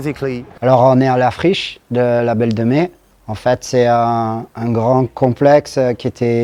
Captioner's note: speaking in foreign language